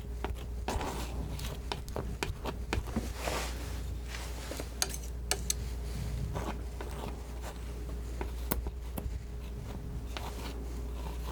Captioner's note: scissors snipping